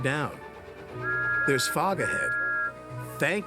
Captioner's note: toot